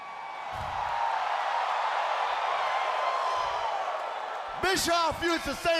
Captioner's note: crowd cheering